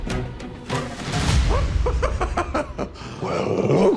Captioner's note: pennywise laughs